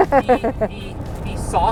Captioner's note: laughter